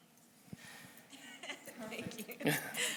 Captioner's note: audience member laughs